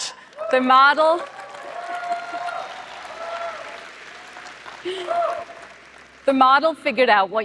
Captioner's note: applause